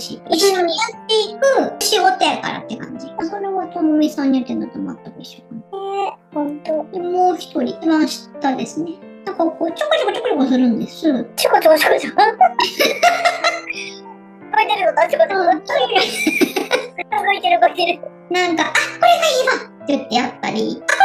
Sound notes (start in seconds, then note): 11.8 laughs; 18.6 laughs